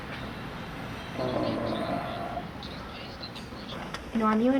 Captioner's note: sighs